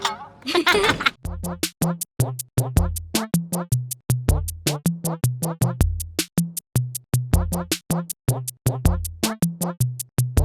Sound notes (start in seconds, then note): 0.0 laughs